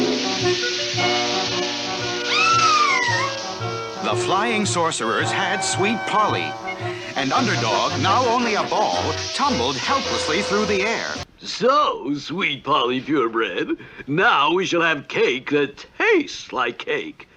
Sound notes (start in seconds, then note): 2.2 Sweet Polly Screams